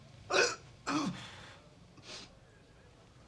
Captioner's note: groaning